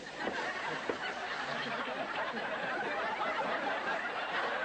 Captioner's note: audience Laughter